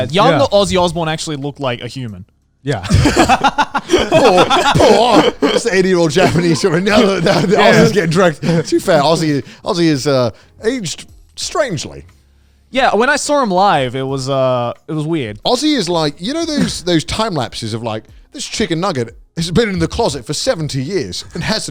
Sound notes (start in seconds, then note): 2.8 all laughing